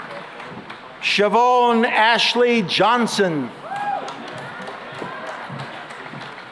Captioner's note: cheering and applause